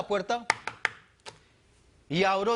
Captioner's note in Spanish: golpea la mesa